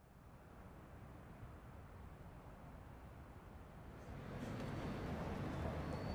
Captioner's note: ambient outdoor sound